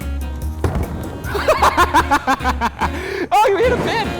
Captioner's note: laughing